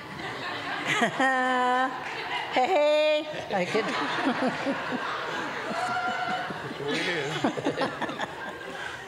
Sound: laughter

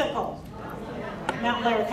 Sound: crowd responding

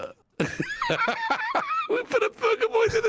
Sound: laughing

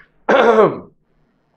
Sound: clears throat

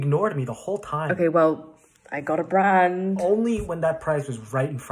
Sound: knock on wood

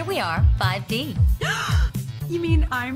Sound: gasps

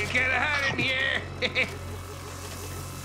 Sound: laughing

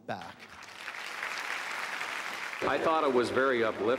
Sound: applause

